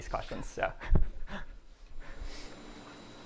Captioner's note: chuckles